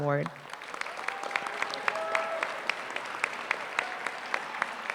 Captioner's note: applause